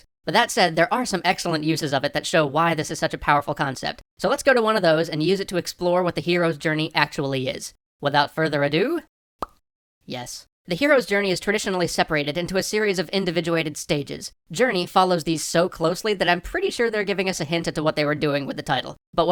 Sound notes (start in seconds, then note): 9.4 pop